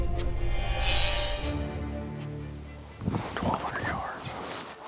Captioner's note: frightening synthesizer sound effect